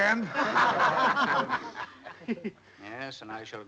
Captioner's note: audience laughing